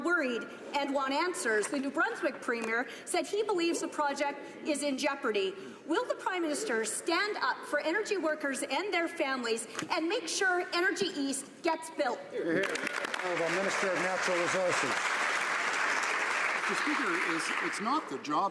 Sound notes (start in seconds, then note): 15.9 some Applause